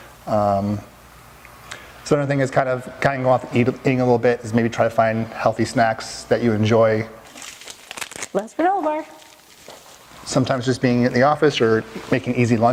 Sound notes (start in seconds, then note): 7.2 rustling